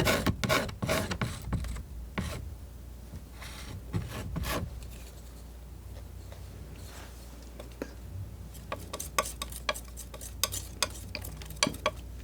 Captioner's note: scratching